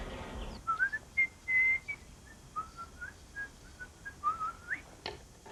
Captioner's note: whistling